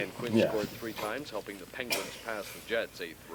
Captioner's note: game noise